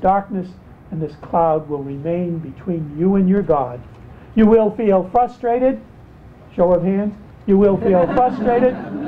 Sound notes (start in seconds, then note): 7.7 laughter